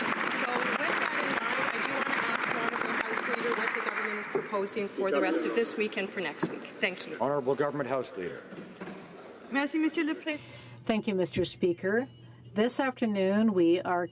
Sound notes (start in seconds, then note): 4.5 some Applause